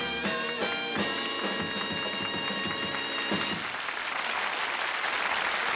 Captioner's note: applause